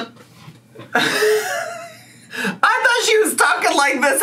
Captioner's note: laughs